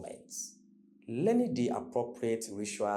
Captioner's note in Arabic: لهجة إعلامية